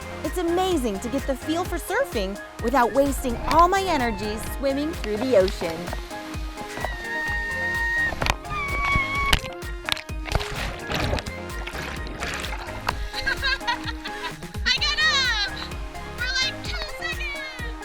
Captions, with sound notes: It's amazing to get the feel for surfing without wasting all my energies swimming through the ocean. (shouting) (laughing) I got up! For two seconds!